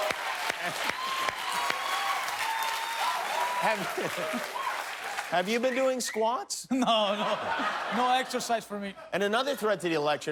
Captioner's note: cheers and applause